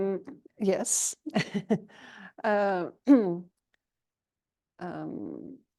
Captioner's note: chuckles